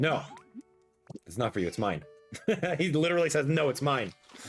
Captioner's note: laughs